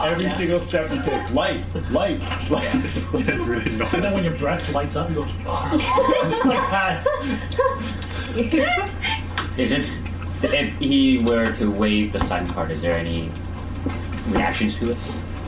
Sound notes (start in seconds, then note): 7.8 exhale sound